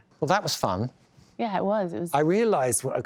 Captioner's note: none